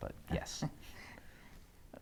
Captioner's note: Aquila chuckles